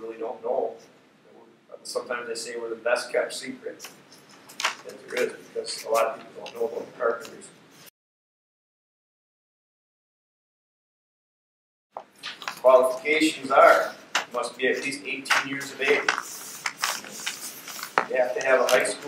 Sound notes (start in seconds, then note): 7.7 silence